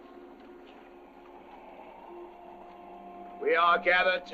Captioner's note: wind howling